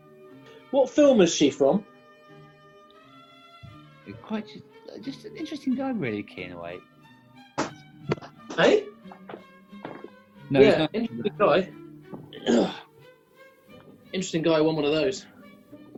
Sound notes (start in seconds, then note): 12.1 groans